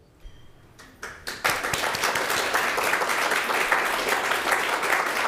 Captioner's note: audience clapping